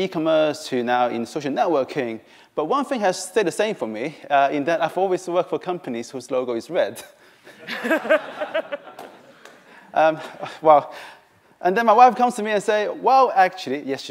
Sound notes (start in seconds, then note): 7.5 laughter